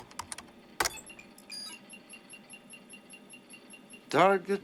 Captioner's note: alarm